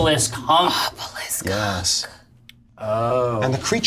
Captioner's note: whispers